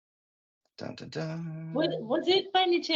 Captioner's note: humming